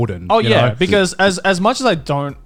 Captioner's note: laughs